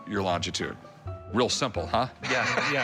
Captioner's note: laughs